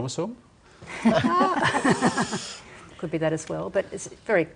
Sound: laughter

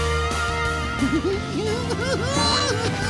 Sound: giggling

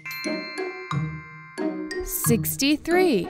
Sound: bells chime

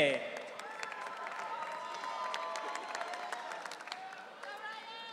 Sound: audience cheering

